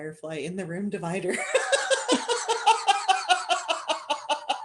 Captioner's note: laughter